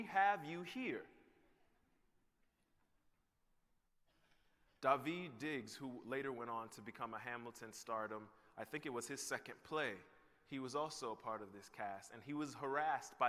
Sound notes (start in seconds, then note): none